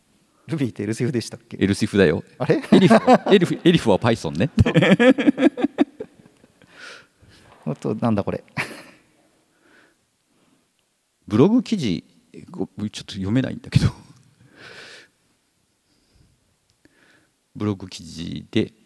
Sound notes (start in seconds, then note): 2.5 laughs; 8.5 chuckles